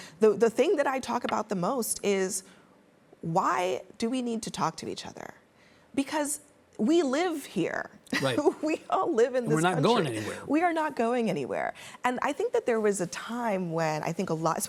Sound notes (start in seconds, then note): 9.5 laughs